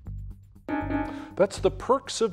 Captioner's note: bell dings